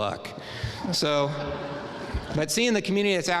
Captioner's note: audience laughing